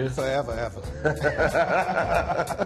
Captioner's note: both laugh